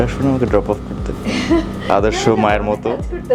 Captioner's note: laughs